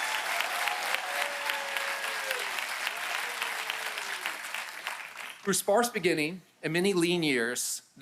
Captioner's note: applause